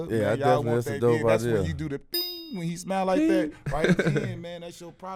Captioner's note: ding